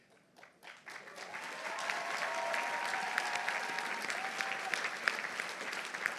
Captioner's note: audience applauding; audience cheering